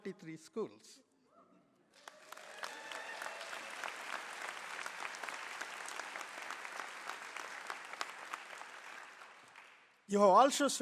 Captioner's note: applause